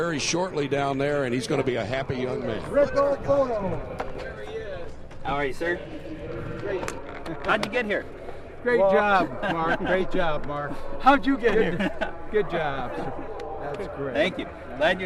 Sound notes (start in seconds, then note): 9.0 laughter